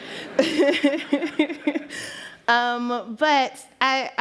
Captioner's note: laughter